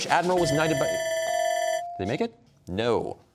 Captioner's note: bell ringing, buzz-in bell dings